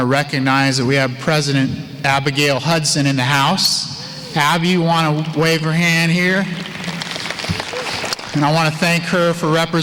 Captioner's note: applause